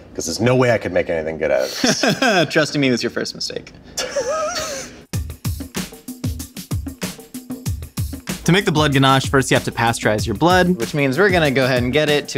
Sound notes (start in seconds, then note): 1.7 laughs; 4.0 laughs; 5.1 upbeat music